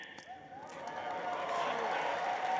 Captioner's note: applause